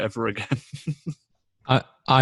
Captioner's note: laughs